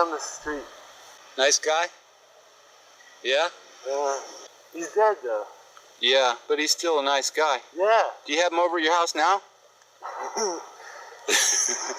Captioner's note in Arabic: يضحك شريرة